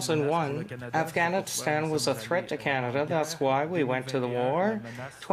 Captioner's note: speaking French